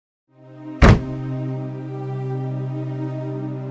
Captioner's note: stomp!